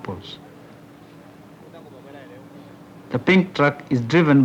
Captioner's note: truck moving